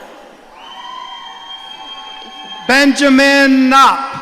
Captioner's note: audience cheering